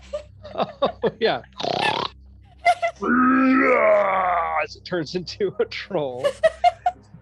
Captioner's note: oinks loudly and then growls